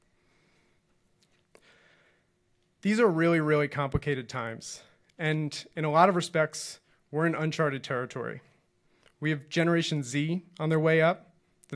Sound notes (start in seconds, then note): none